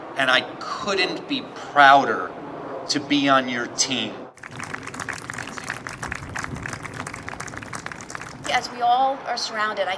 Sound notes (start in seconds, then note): 4.3 audience applauds